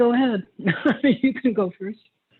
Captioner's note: laughs